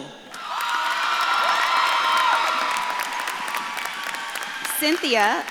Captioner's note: audience claps and cheers